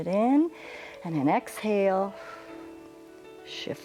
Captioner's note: exhales